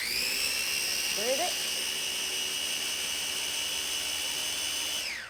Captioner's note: food processor whirring